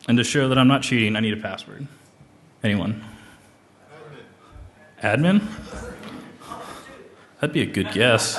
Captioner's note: laughter